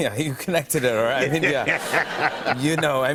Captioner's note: laughter